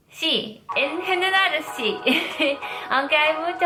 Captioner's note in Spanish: ríe